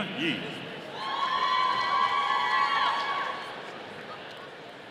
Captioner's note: audience cheering